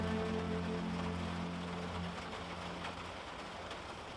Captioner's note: rain pattering